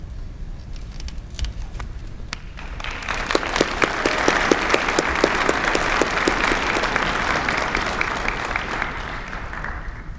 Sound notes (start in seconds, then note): 2.4 applause